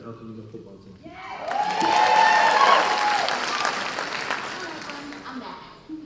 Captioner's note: cheers and applause